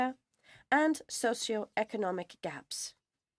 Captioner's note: speaking French